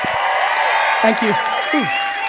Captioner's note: audience cheering